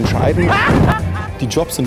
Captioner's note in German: lacht